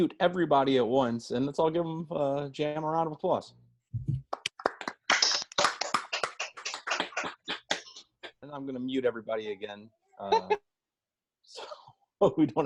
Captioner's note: applause